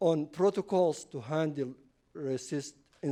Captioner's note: none